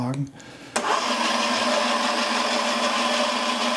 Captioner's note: buzzing lathe